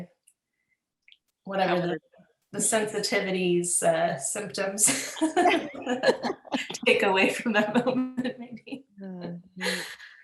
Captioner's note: laughter; laughs